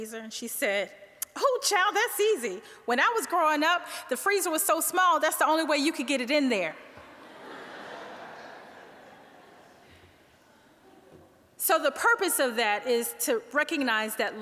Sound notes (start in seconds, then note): 7.0 audience laughing